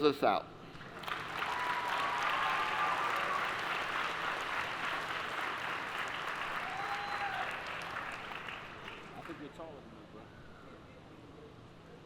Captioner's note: applause